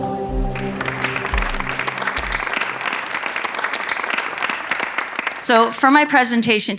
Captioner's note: audience applauds